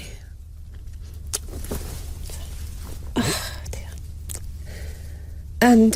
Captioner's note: Suspiros